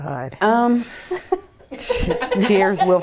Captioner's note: laughter